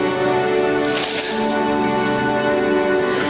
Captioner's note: sniffles